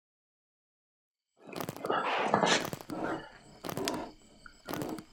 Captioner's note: distant grunting